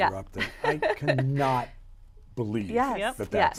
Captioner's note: chuckles